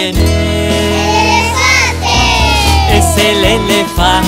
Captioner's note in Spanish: coro de niños gritando